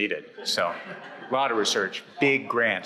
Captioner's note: audience laughs